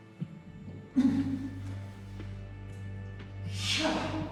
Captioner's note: groans